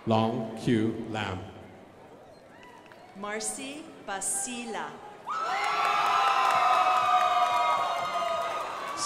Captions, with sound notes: Lau Qu Lam. (crowd applauding) Marcy Basila. (crowd applauding)